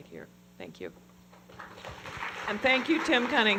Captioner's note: applause